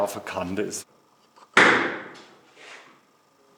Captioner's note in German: Klüpfelschläge